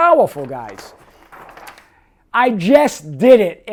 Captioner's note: paper rustles